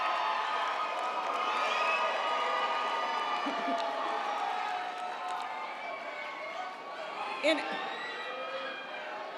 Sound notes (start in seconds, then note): 0.0 audience applauding; 0.0 audience cheering